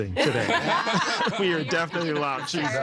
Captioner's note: all laughing